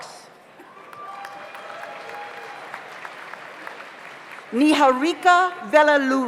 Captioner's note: audience cheers; audience applauds